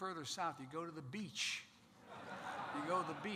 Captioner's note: laughter